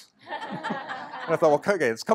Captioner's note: laughter